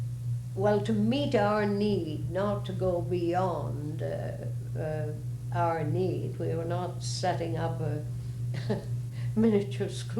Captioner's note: laughs